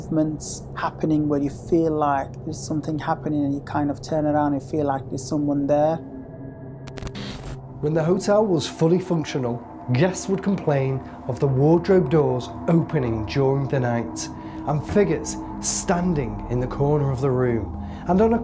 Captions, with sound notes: happening where you feel like there's something happening and you kind of turn around and feel like there's someone there. (static crackling) - When the hotel was fully functional, guests would complain of the wardrobe doors opening during the night and figures standing in the corner of the room.